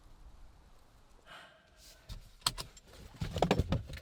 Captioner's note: exhale